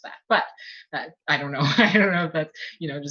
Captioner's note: laughs